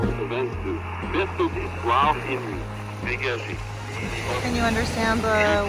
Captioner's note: French speaking on the radio